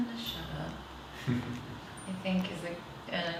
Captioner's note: laughs